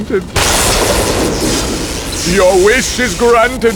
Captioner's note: lightning